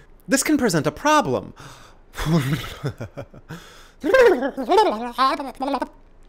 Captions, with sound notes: This can present a problem. *nonverbal mouth noises*